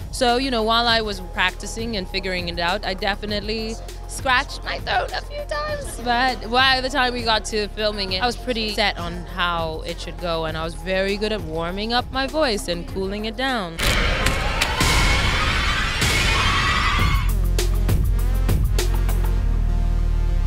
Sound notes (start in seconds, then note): 13.7 dramatic music; 16.8 screaming; 16.9 upbeat music